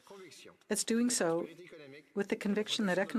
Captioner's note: speaking French